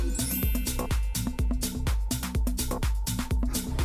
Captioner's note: chimes ringing